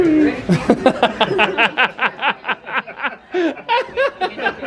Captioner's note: laughing